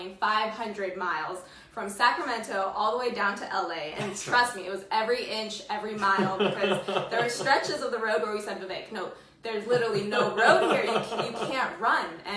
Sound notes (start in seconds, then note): 6.0 laughs